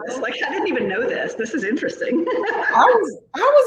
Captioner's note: laughs